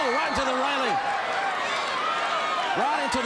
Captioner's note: crowd cheering